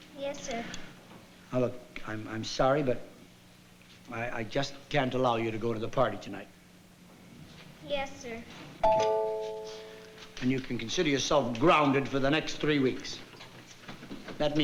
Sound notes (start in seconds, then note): 8.8 doorbell